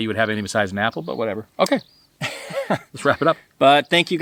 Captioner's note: laughing